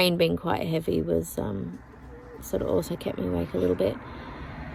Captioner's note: car goes past